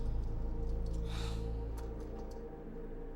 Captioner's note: sighs